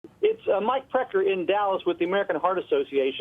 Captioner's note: voiceover